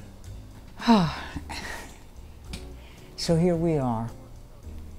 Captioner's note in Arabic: تنهد